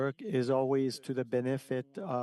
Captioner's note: speaking French